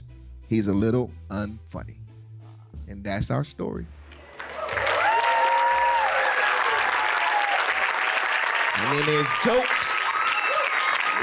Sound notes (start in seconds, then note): 4.2 cheers and applause